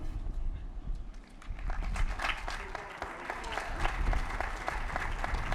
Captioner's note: applause